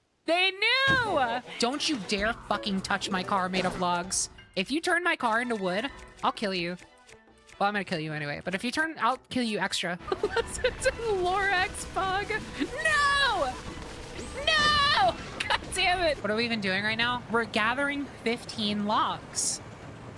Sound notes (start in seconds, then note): 10.0 laughing